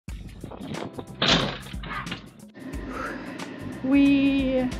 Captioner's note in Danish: laud crash